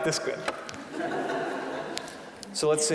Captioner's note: audience laughing